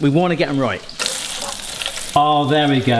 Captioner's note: oil sizzling